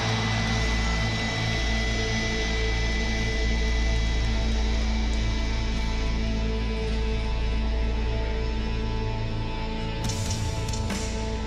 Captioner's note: crowd cheering